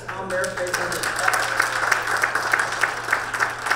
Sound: crowd clapping

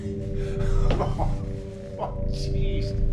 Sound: laughs

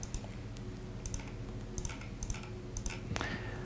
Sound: clicking

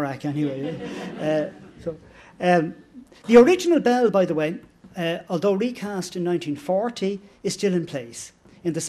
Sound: laughter

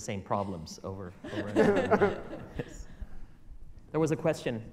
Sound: audience laughter

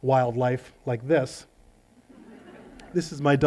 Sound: laughter

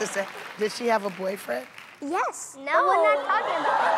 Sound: laughter

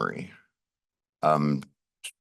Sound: pause

